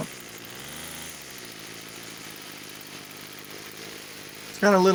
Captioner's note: engine running sounds